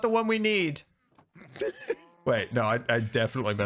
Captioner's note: laughs